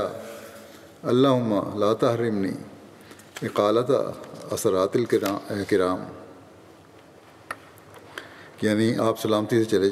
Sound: Arabic

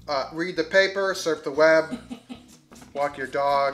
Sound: woman laughing

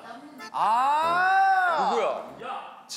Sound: exclaiming

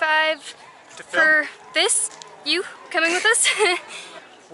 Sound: laughs

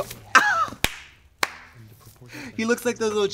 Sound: Katya laughs; hands clap

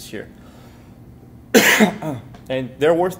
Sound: cough

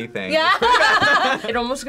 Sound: laughs

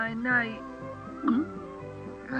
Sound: gulps

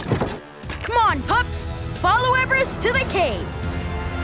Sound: none

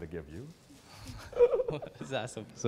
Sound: he laughs

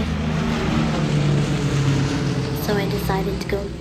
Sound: airplane overhead

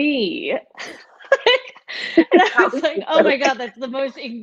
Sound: laughing

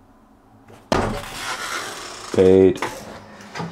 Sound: door creaks

